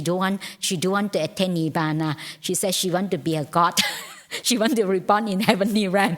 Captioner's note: laughs